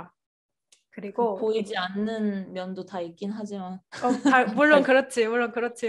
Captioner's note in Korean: 웃음